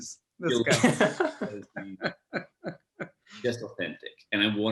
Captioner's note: laughs